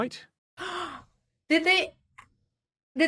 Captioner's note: gasp